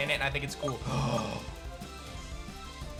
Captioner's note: gasps